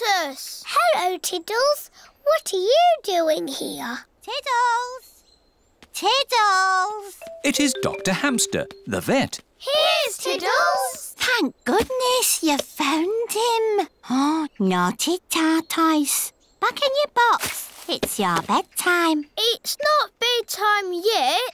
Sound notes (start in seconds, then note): none